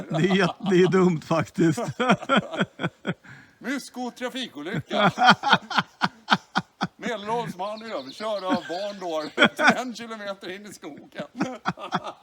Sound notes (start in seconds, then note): 0.0 chuckles; 4.5 laughs